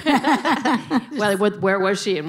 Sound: laughing

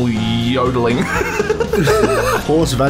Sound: collective laughter

